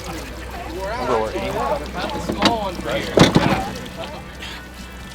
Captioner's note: crew chatting